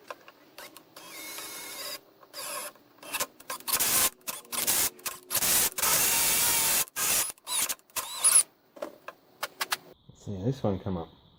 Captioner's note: machine noises